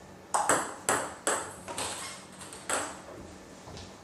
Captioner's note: ball ping pong hitting